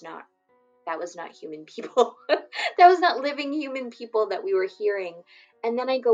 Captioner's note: laughs